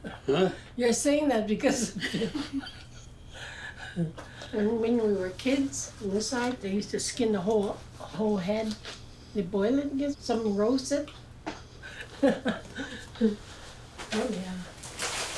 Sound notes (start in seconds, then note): 2.0 chuckling; 11.8 laughs